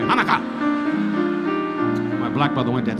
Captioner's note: audience laughing